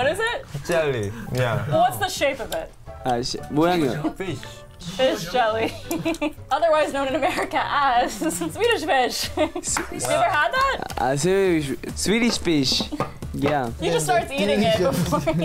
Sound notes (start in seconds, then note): 3.7 smacks; 4.8 laughs; 9.1 chuckles; 9.7 claps